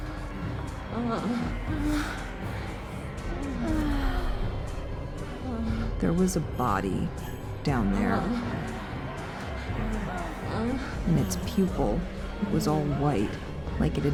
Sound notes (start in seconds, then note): 0.0 people moaning